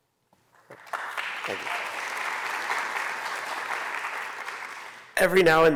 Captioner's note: applause